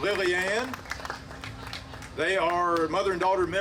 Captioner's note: audience applauding